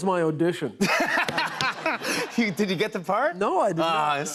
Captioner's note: laughs